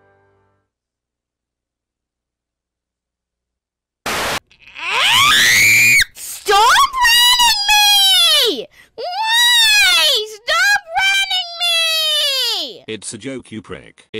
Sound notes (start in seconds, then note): 4.0 Static; 4.7 loud Screaming That Gets Higher in Tone